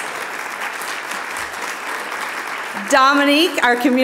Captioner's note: audience applauding